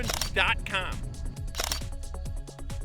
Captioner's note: camera click